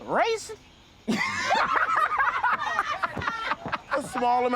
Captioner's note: laughter